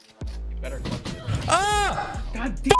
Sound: Surprised Arkansan yelp

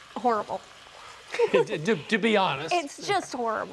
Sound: laughs

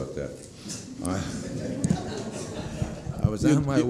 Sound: laughter

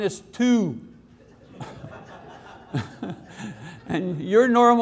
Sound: audiences laughs

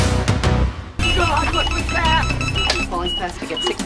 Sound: monitors beeping rapdily

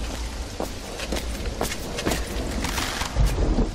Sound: footsteps approach

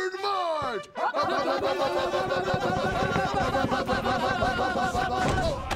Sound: all yelling

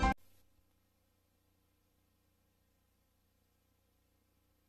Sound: silence

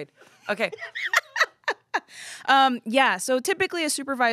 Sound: laughs

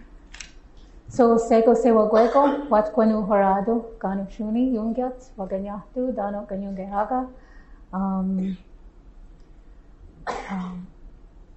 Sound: non-english speech

